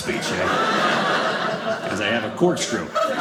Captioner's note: audience laughing